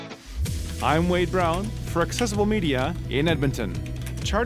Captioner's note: voiceover